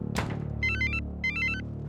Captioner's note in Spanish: suena el celular